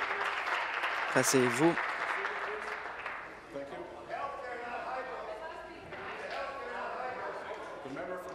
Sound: applause

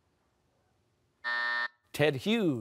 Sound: buzzer

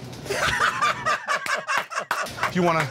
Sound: laughter

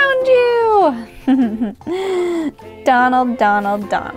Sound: giggles

